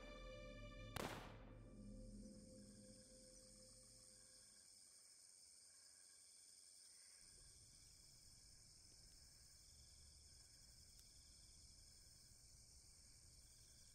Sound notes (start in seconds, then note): 2.2 crickets chirping